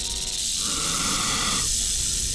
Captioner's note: hissing